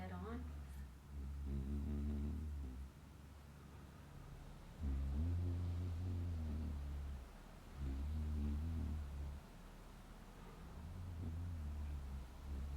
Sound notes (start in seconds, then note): 1.0 humming